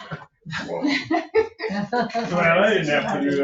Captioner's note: laughing